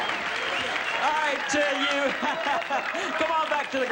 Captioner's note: laughter